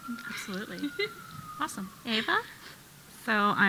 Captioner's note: siren wailing